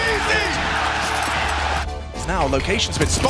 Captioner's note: crowd cheering